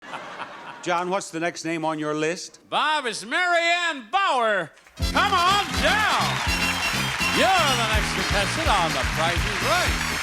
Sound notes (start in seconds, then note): 0.1 laughs; 5.0 upbeat music; 5.0 audience cheers and applauds